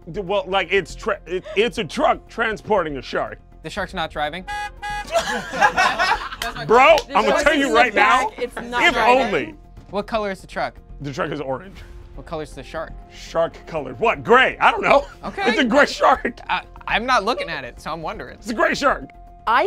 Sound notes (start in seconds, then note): 4.4 horn honks; 5.0 group laughs